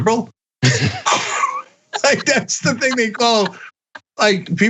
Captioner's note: laugh